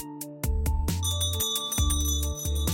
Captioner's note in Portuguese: som de sino